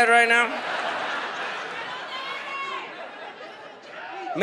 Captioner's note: audience laughs; audience member yells